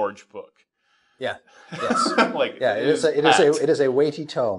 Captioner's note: laughing